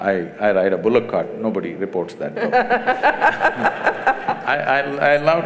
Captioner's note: laughter